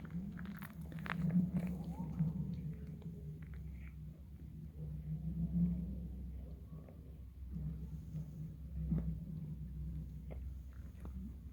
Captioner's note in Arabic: صدى غريب وأصوات صاخبة لجليد بحيرة الغناء